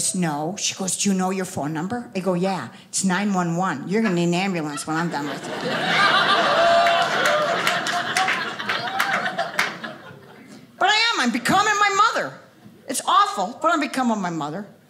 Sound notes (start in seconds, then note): 6.6 audience laughing